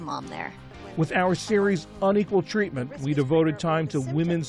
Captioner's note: voice-over